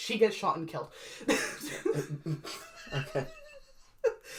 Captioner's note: laugh